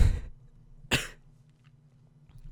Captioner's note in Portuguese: tosse